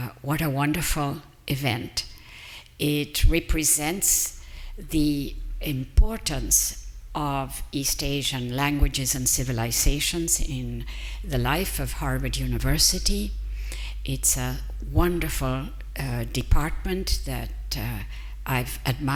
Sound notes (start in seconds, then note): none